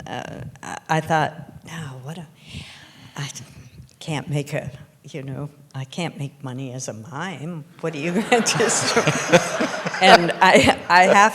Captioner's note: laughter